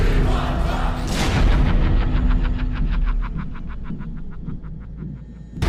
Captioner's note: chanting; evil laughter